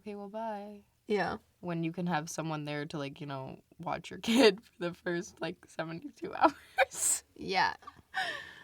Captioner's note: laughs